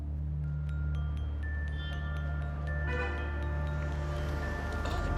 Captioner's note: cars honking